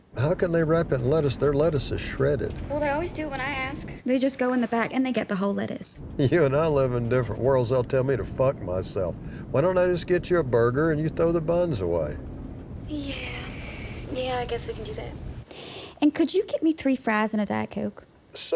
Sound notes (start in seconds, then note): 2.9 on phone; 6.2 chuckling; 12.6 on phone; 13.4 sighing